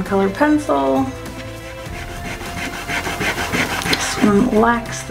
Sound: eraser rubbing

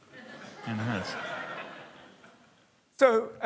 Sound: laughter

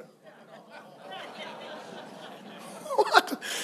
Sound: congregation laughs

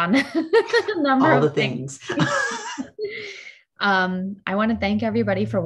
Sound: laughs

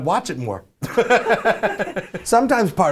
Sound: laughing

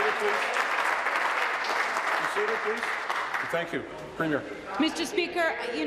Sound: applause

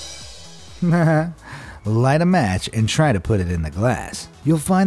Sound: chuckles

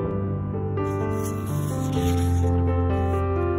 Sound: soft piano music; pages turning; soft piano music

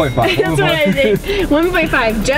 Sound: laughing

